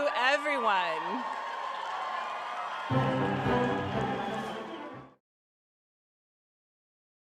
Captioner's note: cheering and applauding